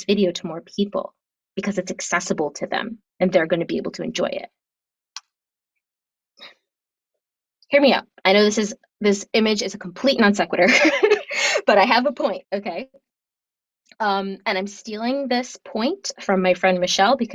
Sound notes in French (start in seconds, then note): 10.6 rires